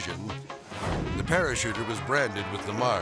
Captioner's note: air swoosh